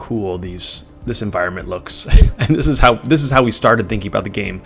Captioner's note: laughing